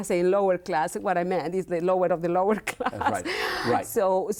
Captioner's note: laughs